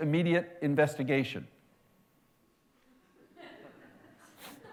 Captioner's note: laughter